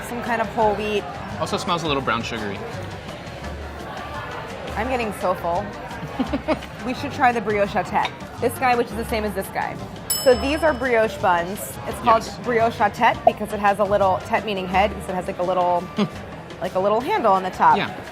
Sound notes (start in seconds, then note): 6.0 laughing; 10.1 bell dinging